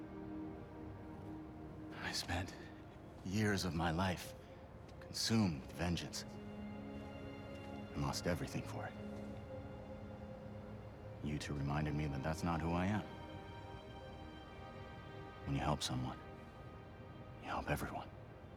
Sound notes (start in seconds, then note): none